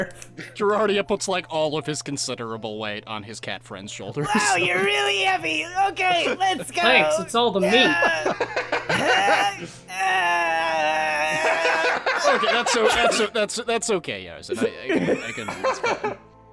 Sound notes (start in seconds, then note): 4.4 strained; 7.8 laughter; 9.9 continues to make strained noises